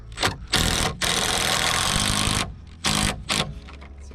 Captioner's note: drill whirring